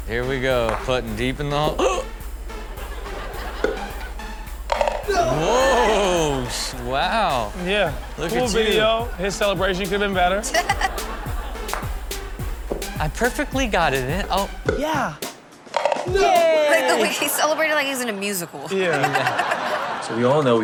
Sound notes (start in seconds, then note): 4.6 ball pops and thuds; 5.0 man cheers; 10.5 Chanel giggles; 15.6 ball pops; 15.7 ball clunks; 18.6 all laugh